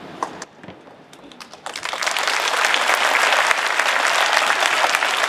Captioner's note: audience applauding